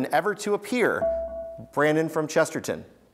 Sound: buzzer beeps

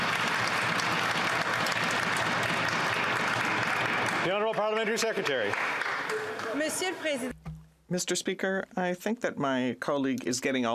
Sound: applause

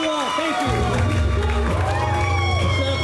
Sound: applause

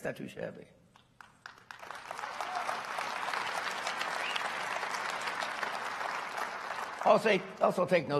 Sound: applause

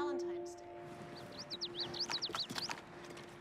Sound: birds chirping

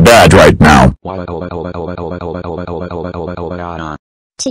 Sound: crying

